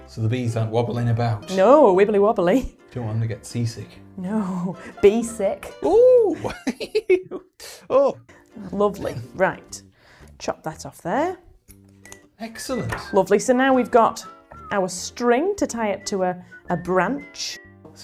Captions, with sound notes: So the bees aren't wobbling about No, wibbly wobbly Do you want them to get seasick No, bee sick! Oh (laughs) Lovely, right. Chop that off there Excellent Lovely, so now we've got our string to tie it to a branch